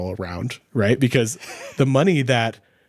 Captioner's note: laughing